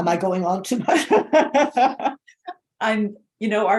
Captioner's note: laughing